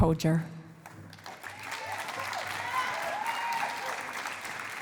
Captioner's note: cheering and applause